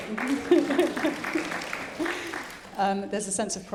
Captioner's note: audience applauding